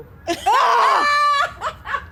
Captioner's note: laughs; shouts